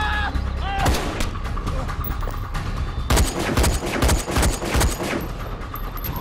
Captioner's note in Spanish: Gritos; Disparos